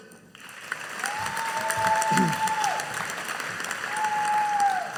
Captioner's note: audience cheering